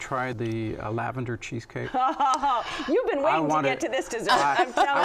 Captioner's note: laughs